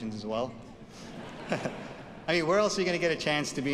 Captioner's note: audience laughs